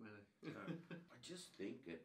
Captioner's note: laughing